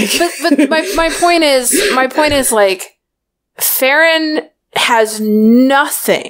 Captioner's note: laughs